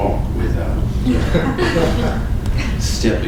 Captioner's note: laughter